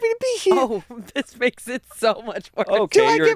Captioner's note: laughs; laughs